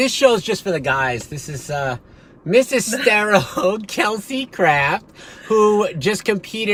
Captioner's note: laughs